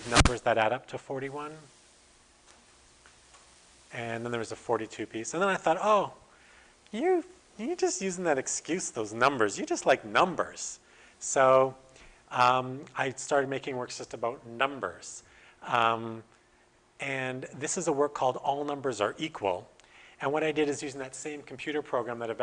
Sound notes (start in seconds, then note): none